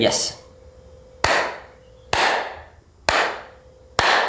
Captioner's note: loud clapping